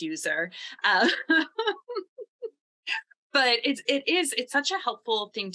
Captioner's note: laughs